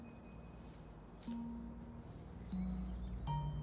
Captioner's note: grass rustling